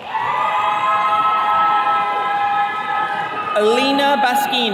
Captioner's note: attendees cheering